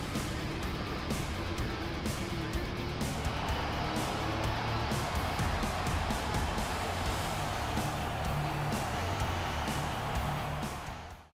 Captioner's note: crowd cheering